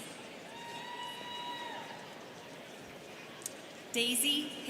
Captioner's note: students cheering